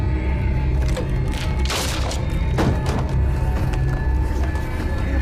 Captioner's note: muffled 1920's music; soft intense music; wood cracking loudly; muffled 1920's music; soft intense music